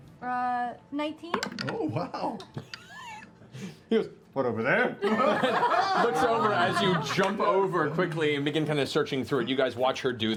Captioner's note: laughs